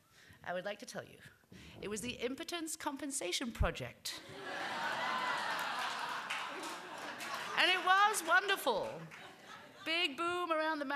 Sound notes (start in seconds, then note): 4.2 laughter